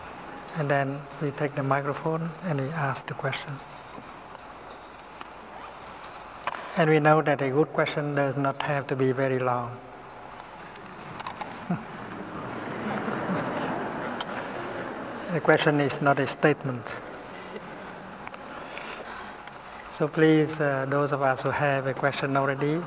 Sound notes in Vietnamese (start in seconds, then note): 10.8 tiếng cười